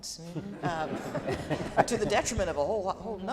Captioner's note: laughing